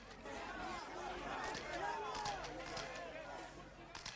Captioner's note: camera clicking